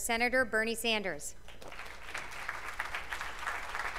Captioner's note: applause